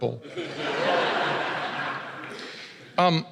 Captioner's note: laughter